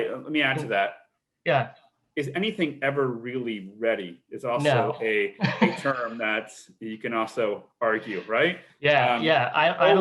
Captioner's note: laughs